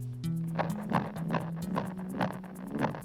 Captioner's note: thumping